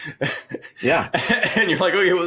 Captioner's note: laughing